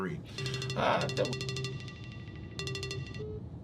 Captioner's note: phone ringing